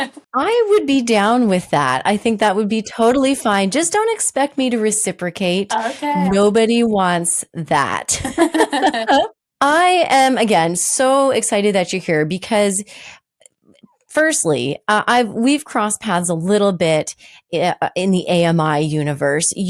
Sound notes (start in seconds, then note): 8.1 laughing